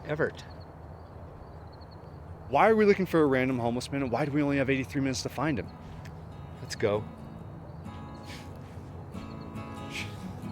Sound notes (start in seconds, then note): 6.0 soft music plays; 9.9 sigh